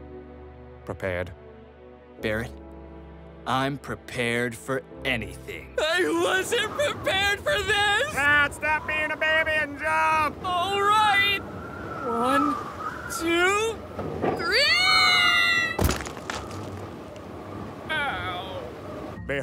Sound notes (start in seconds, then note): 15.7 Cloud hits the ground